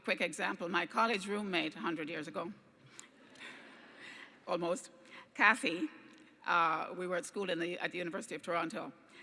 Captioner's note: laughs